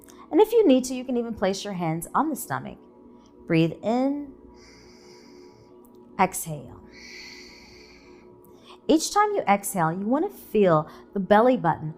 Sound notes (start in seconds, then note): 6.8 exhaling; 6.9 inhaling